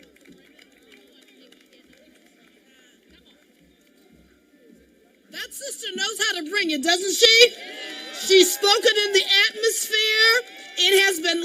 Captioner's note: cheering